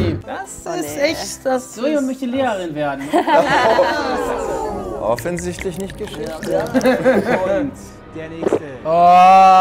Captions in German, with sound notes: Das ist echt ... - Sie möchte Lehrerin werden. (Lachen, entgeisterte Laute) Offensichtlich nicht Geschichte. (Lachen) (Schlucken) Oaaah!